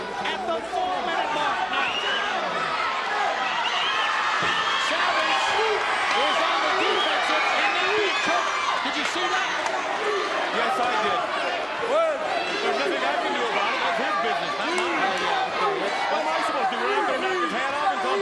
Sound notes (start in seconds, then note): 4.1 audience jeering